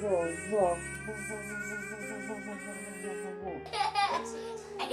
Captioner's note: playful noises and laughter